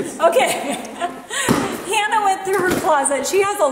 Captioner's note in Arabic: ضحكات خافتة من الكريستال